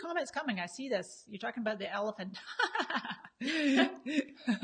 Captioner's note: laughs